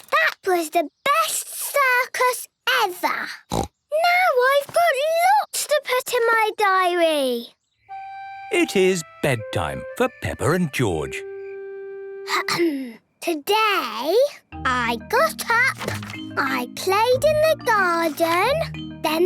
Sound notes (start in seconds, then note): 11.7 clears throat